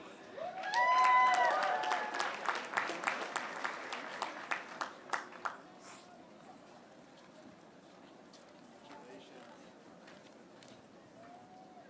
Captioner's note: applause